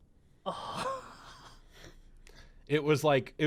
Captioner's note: sighs